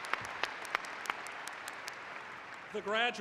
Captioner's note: APplause